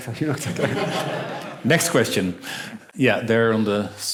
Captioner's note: laughter